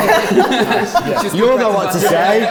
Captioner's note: laughs